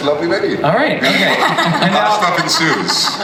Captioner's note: laughs